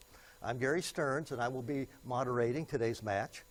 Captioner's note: none